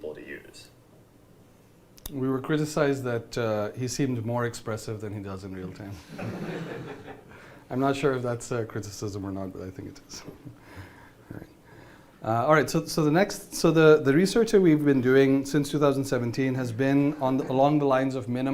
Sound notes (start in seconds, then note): 6.0 laughing